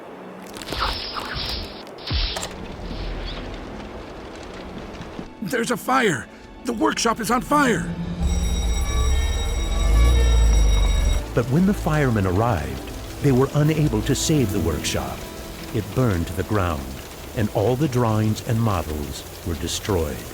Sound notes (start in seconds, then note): 0.3 electrical noises, and wire stretching; 2.1 door opening; 7.5 sirens and bells